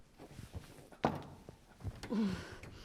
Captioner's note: breathes heavily